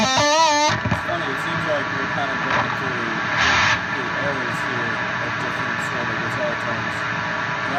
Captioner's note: amp Buzz